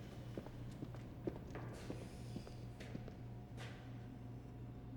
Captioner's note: shoes clacking